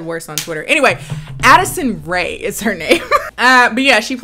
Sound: giggles

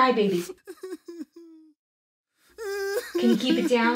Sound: small child wailing

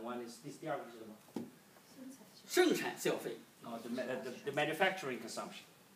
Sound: speaking foreign language

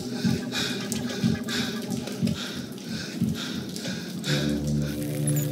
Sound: hyperventilating; panting

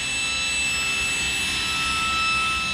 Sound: shrill whirring of the machine

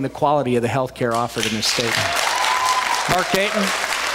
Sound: cheers, applause

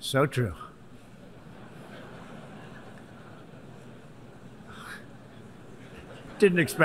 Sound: laughter

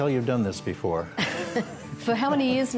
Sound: laughter

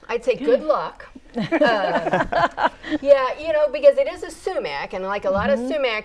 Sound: laughing

